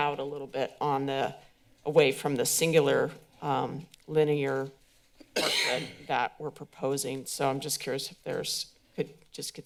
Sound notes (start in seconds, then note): 5.3 coughs